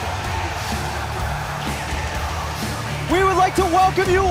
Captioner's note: cheers and applause